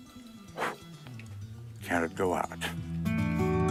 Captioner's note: sound of blowing out a candle